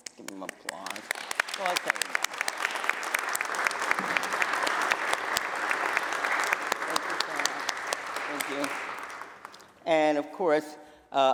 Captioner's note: applause